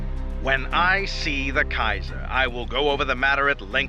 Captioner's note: Voz en off